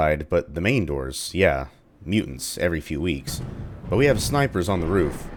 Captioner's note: thunder